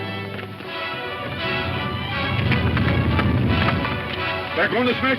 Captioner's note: rock rumbles